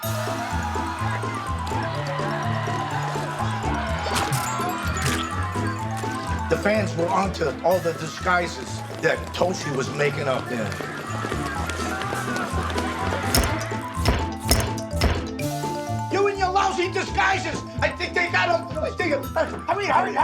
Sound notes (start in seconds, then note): 0.1 fast paced music; 12.1 camera clicking; 12.1 fast paced music